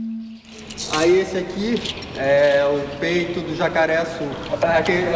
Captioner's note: non-english speech